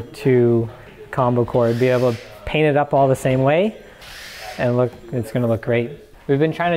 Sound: none

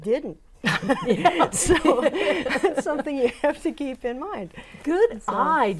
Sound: laughing

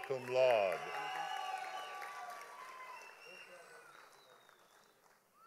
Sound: audience applauding

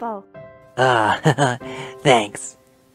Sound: chuckle

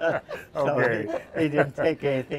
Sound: laughter

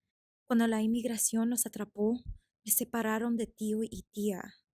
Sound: actor speaking Spanish

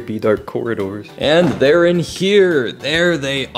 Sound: refrigerator door opens

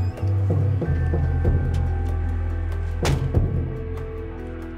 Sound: car door squeaking

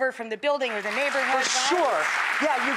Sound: audience applause

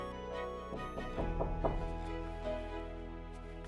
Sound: knocking on door

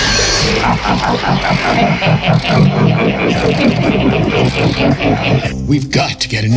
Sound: laughing

